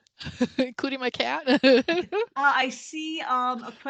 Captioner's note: laughs